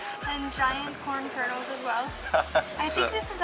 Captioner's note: giggles